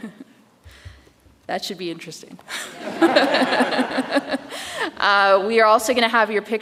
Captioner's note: audience laughs